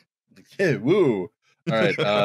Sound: laughs

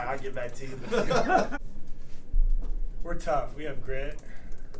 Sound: laugh

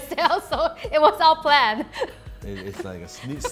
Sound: laughs

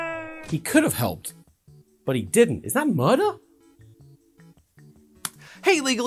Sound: click

